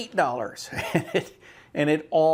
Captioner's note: chuckles